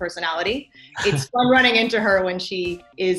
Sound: laughs

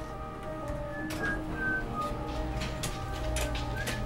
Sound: gentle music; soft whistling

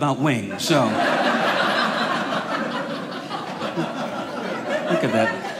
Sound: audience laughing

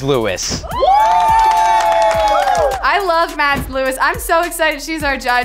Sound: housemates cheering

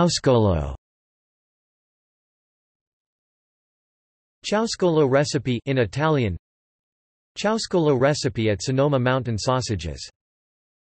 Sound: in Italian

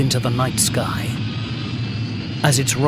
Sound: engine roaring

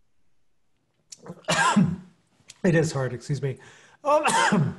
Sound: coughs

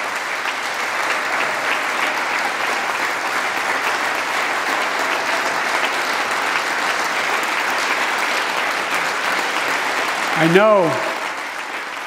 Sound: applause

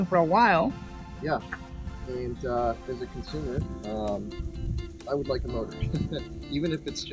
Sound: laughs

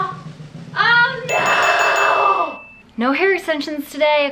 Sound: bell dings

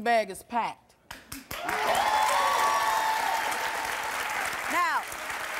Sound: audience applause

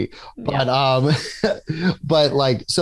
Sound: laughs

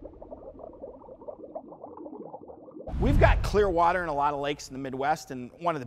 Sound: bubbles

